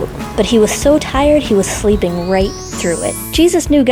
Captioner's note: chimes